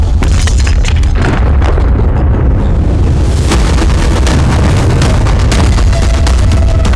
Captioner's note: glass shattering; intense music